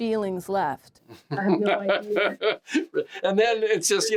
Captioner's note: James laughing